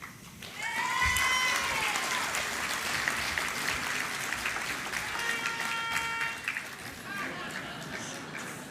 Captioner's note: applause